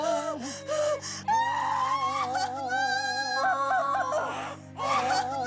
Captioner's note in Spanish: Quejidos